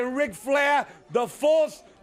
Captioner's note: crowd cheering